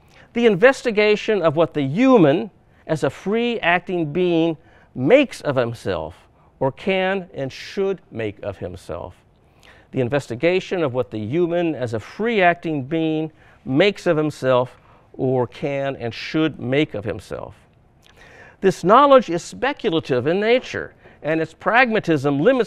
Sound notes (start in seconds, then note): none